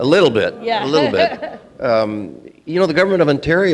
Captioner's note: laughing